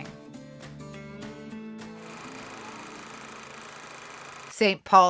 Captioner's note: old movie reel clicking